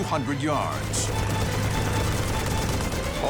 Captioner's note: gunfire